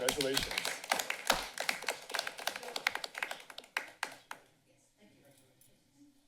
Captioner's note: applause